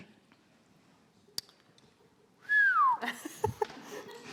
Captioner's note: whistles; crowd laughs